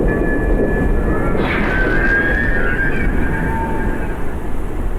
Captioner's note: Woodcrawler screeching